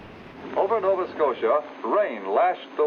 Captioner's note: man On Radio